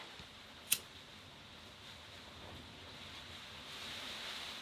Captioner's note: lighter flicks